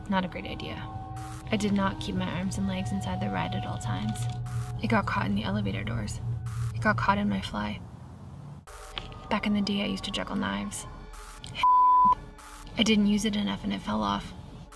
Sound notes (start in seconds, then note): 1.2 static crackles; 3.7 static crackles; 6.4 static crackles; 8.6 static crackles; 11.1 static crackles